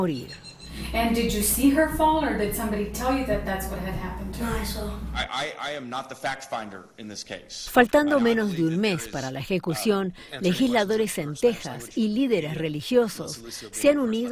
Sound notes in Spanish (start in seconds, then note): 4.7 habla en ingles